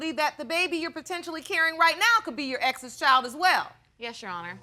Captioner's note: none